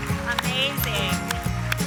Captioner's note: applause